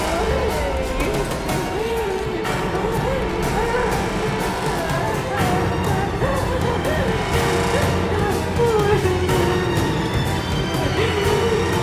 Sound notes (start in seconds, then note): 2.9 dramatic music; 2.9 heavy breathing